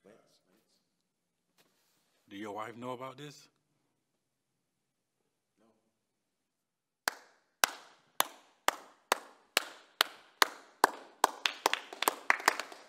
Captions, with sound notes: - Do your wife know about this? (David clapping) (men clapping)